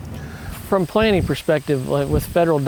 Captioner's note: voiceover